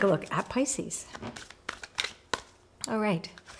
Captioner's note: cards shuffling